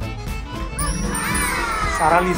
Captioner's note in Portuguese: som de admiração